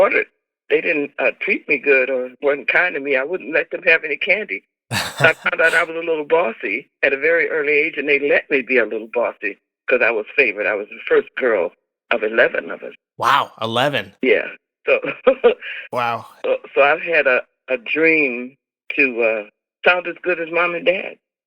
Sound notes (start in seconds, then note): 4.9 laughter